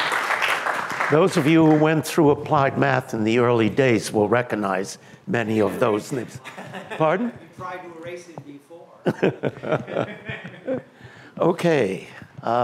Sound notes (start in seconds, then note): 9.0 laughter